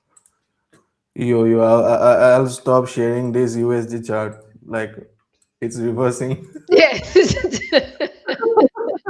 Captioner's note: laughter